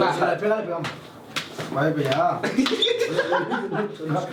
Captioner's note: Risas